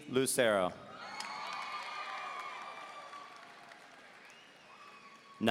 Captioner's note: audience cheering